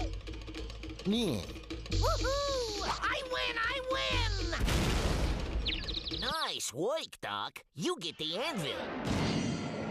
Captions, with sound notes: [jeers] WHOO-HOO! I WIN! I WIN! NICE WORK, DOC. YOU GET THE ANVIL.